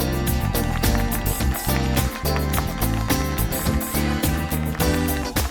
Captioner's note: audience claps and cheers